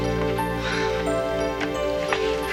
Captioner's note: sighs